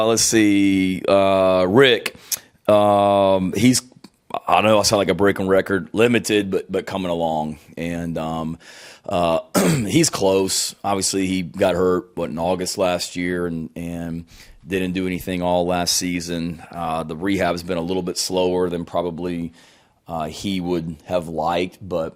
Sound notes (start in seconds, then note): 9.5 clears throat